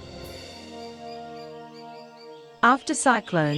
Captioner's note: birds chirping